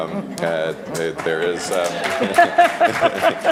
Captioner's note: applauds; laughs